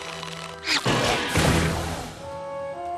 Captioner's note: crash